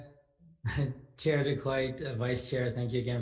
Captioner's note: laughs